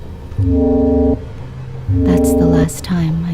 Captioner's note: electronic alarm blaring